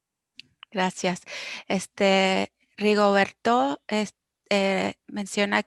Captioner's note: speaking foreign language